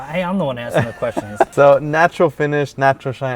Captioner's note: laughs